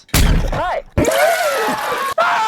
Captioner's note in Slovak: žblnk-žblnk